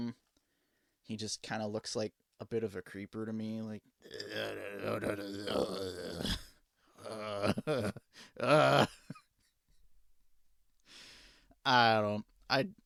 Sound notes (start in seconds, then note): 7.2 raspy growling noises